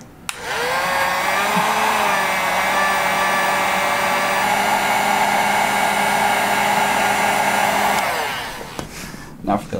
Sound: vroom

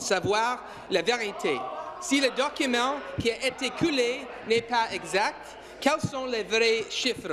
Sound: speaking in French

